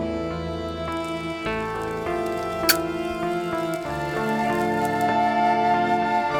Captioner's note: fire crackling; lighter clicks